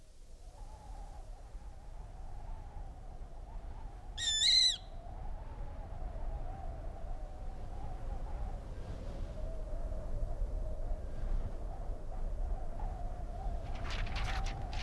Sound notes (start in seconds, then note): 4.2 a bird singing; 6.4 wind blowing